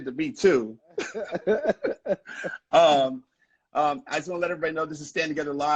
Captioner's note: laughing